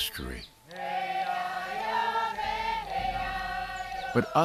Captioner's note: chanting continues